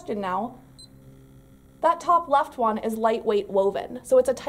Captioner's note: beeping noise